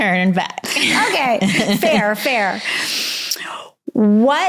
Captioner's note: laughs